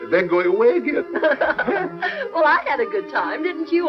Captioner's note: laughing